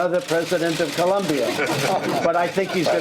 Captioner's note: laughter